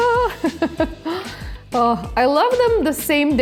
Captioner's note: chuckles